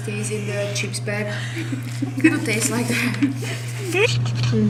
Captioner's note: laughing